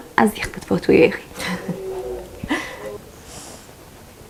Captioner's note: laughing